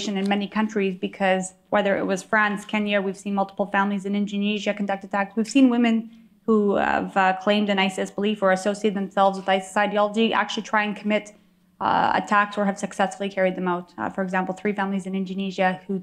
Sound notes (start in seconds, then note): none